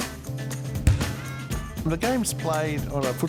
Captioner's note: ball bangs